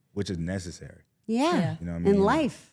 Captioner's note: none